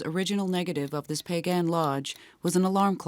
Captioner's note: clock ticking